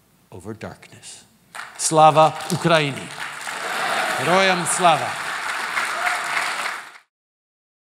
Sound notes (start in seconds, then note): 5.1 applause